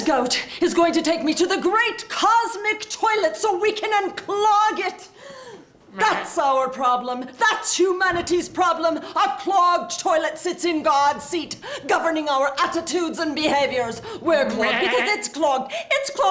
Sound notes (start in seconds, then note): none